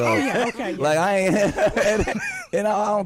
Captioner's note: laughing